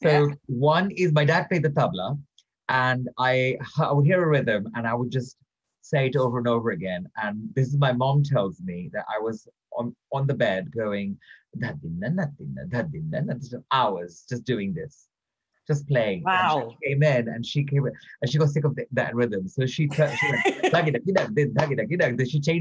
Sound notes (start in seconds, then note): 11.5 mimics drum rhythm; 19.6 mimics different rhythm